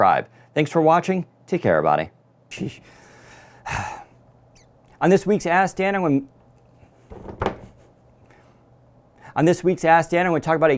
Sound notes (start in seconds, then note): 2.8 breathes heavily